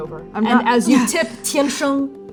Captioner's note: grunting